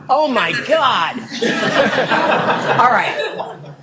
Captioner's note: audience laughing